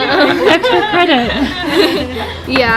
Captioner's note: laughing